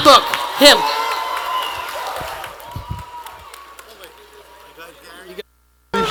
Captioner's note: attendees applauding